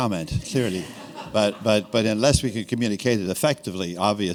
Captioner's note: laughter